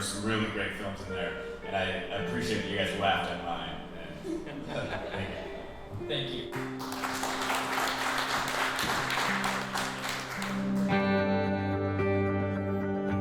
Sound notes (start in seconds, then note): 4.1 audience chuckling; 6.5 audience applauding